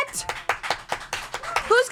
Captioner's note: everyone applauds